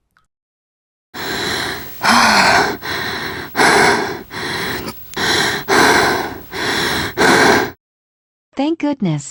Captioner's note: catching her breath